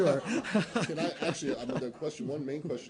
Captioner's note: laughter